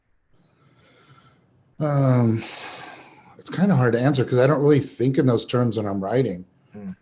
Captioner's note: sighs